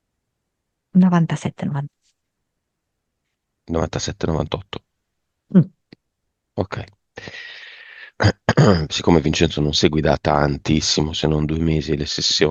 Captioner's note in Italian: schiarire la voce